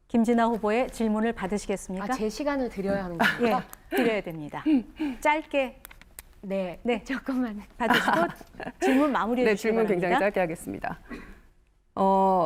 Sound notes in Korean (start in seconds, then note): 7.8 웃음소리